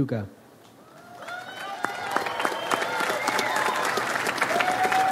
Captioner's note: audience applauds